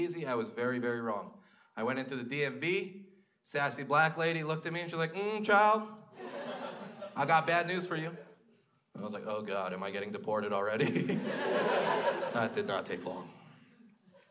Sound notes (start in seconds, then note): 6.1 crowd laughs; 10.8 crowd laughs